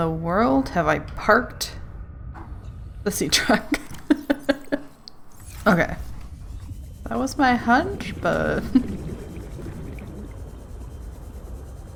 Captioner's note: laughs